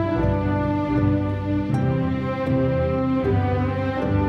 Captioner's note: none